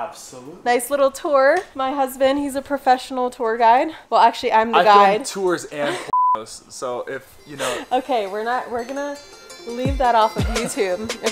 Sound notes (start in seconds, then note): 6.1 beep